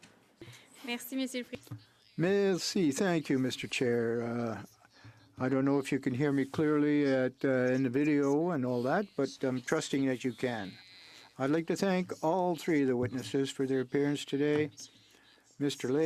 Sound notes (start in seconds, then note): 3.8 speaking French